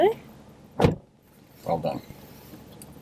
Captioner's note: car door slams